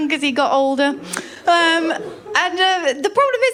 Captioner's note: laughter